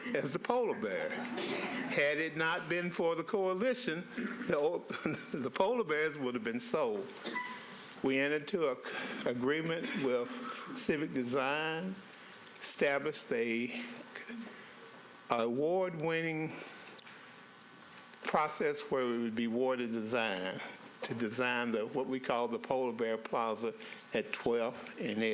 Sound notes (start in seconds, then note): 4.8 laughter